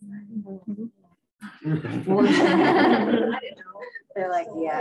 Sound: laughter

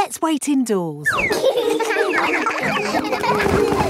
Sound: all giggling

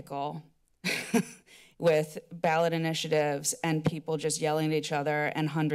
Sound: chuckles

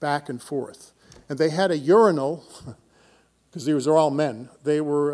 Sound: laughs

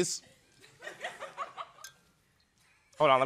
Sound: chuckling

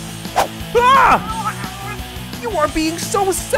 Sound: snarling

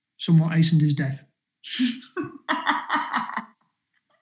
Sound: laughing

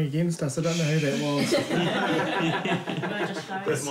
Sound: shushing, laughter

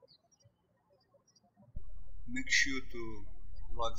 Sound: birds chirping

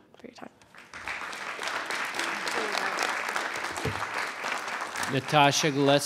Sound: audience applauding

